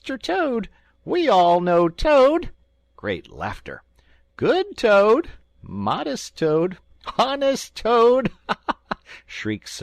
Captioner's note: great laughter; shrieks of merriment